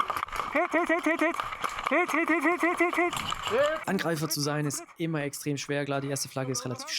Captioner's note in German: gelächter